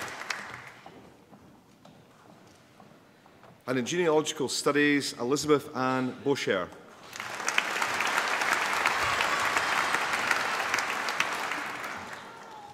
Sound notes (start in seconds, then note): 0.0 applause; 7.0 applause